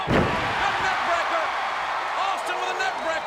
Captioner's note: audience cheers